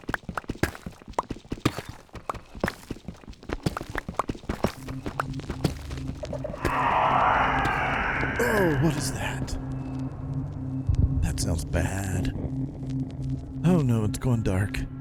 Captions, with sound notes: [blocks breaking] [shrieking] Oh, what is that? [warden heartbeat] That sounds bad.... Oh no, it's going dark.